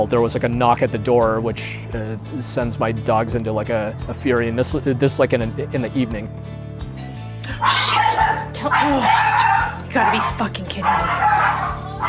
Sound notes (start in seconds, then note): 7.5 doorbell rings; 7.5 dogs barking